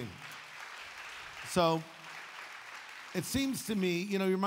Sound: audience applauds

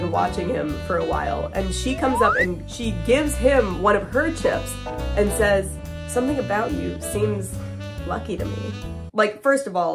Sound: sexy music; slide whistle

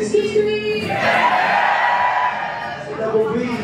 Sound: skrr skrr~

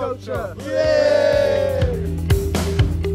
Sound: cheers

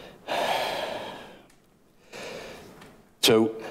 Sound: sighs

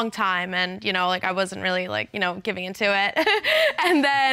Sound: chuckles

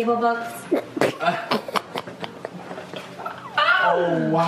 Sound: laughing

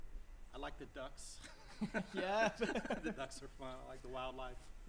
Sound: laughter

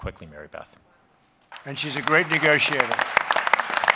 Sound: applause

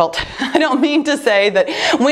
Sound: laughs

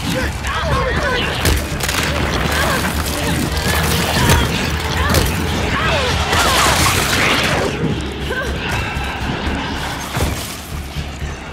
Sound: footsteps

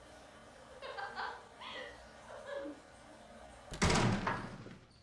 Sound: giggling

